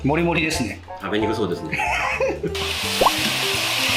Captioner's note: laughs